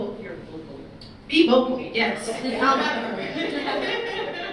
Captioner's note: laughter